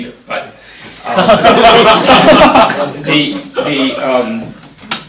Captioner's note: laughter